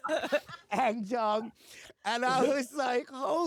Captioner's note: laughter